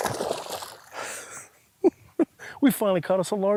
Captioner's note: chuckles